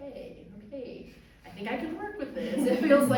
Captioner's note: audience laughs